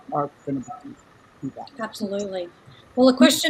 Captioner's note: speaks quietly